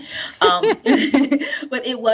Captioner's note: laughing